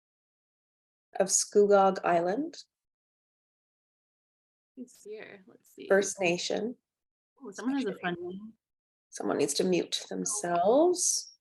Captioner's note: talking in background